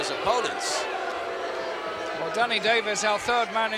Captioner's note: crowd booing